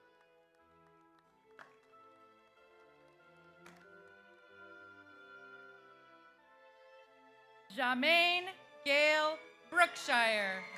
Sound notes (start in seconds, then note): 1.1 audience applauds